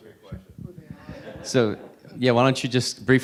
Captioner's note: audience laughing